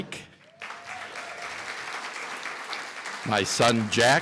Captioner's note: applause